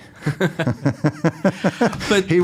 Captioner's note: laughs